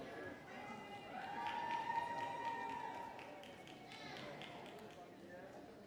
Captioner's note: applause